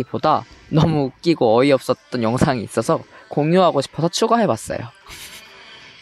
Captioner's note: haha